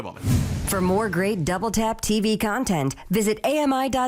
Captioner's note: voiceover